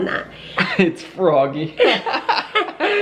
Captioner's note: chuckles